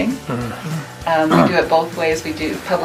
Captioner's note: clears throat